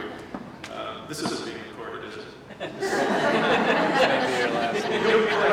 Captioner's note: laughter